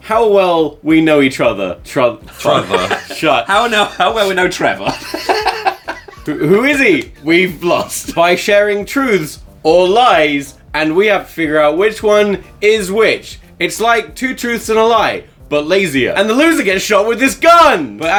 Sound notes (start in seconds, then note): 2.3 all laughing; 2.3 stammering; 5.8 laughing